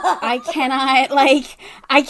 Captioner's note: laughs